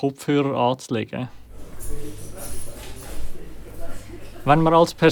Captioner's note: clapping cutlery in a canteen